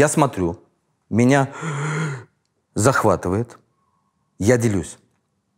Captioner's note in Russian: удивлённо вдыхает